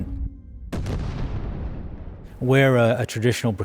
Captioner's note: explosion booming